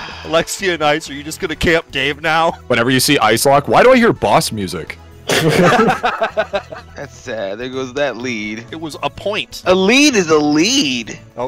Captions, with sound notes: Alexia and Ice, are you just going to camp Dave now? Whenever you see Icelocked... Why do I hear boss music? *group laughter* That's sad, there goes that lead... It was a point... A lead is a lead!